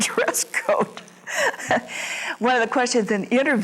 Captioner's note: laughs